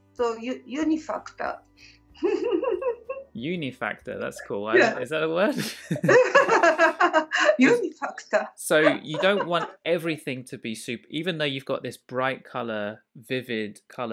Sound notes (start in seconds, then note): 2.2 laughter; 5.3 both laugh